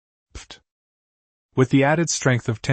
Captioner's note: pfft!